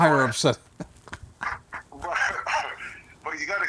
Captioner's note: laughing